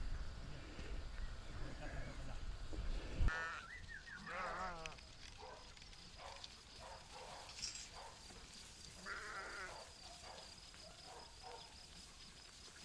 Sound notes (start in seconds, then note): 3.4 lambs bleating and shepherd whistling; 5.2 dog barking; 8.9 barking and bleating; 10.3 crickets